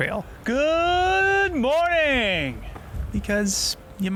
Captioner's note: yelling